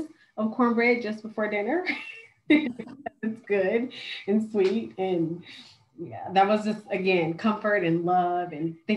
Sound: laughter

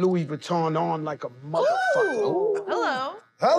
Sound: all oohing

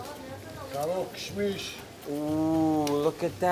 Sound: in foreign language

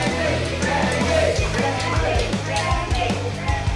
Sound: crowd

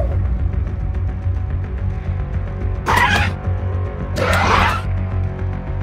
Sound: dryptosaurus Sounds

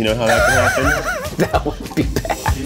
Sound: laughing

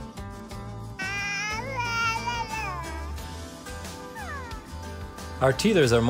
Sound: baby babble

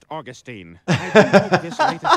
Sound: laughing

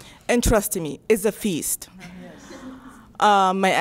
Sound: crowd

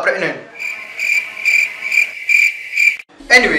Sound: realistic cricket sound effect

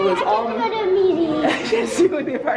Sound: laughs

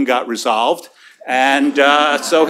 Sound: laughter

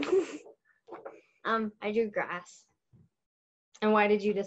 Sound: laughs

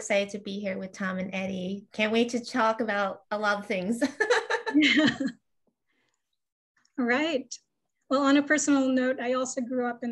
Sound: laughs

